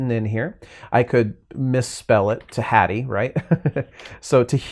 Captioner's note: laughing